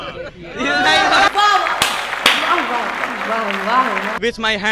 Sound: chanting of whoa whoa whoa because that just did not happen

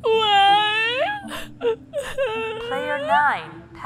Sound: cries

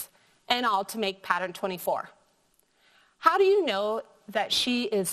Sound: none

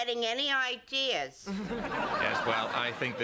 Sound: laughter

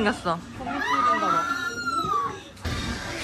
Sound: screaming

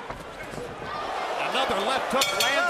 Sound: bell dinging

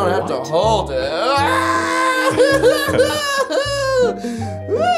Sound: yelling

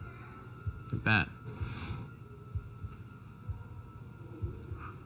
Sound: foot sliding

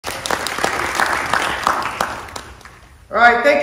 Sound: audience applauds

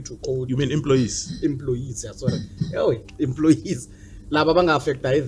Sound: laughs

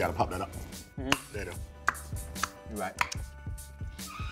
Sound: men popping

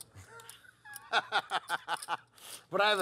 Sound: laugh

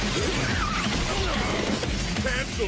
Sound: villain grunts

